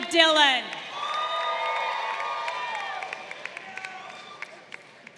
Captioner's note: crowd cheering